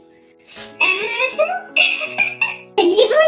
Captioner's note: laughs